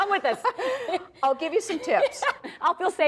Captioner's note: laughs